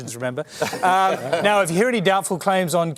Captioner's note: laughter